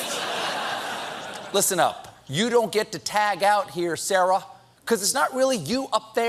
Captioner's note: laughter